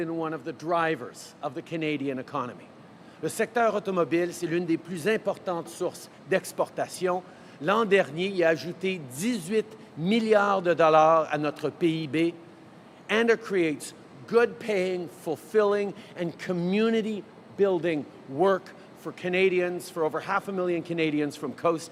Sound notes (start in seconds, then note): 7.7 speaking in french